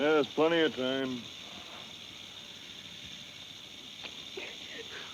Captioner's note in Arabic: خشخشة الثعبان